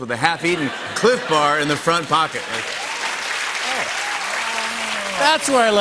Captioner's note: laughter and applause